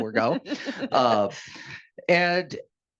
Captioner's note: laughing